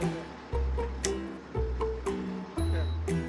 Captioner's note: snap